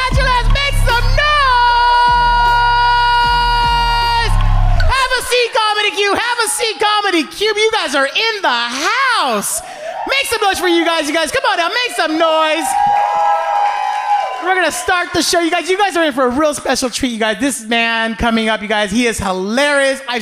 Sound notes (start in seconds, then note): 2.9 audience cheering; 13.1 audience cheering